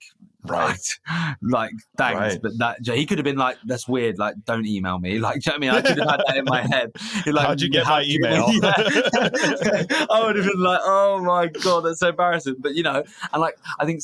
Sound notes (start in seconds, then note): 8.2 both laughing